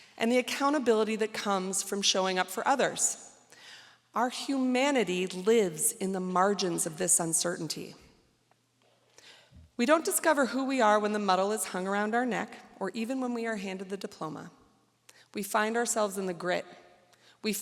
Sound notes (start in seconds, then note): none